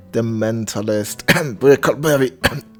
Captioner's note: cough